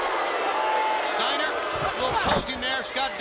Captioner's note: crowd cheering